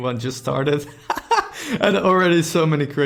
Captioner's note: laughing